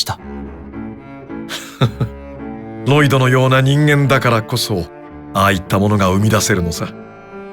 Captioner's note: giggle